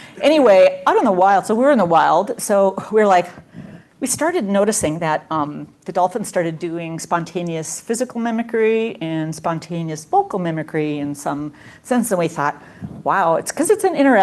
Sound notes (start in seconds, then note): none